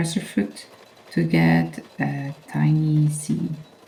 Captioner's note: darning foot whirring